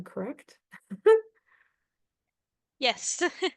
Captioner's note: laughing